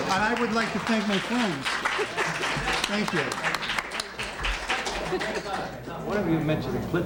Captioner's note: applause